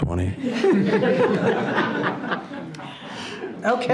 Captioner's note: participants laughing